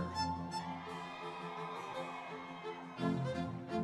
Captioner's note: audience cheering; lively music continues